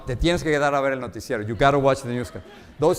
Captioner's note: speaks in Spanish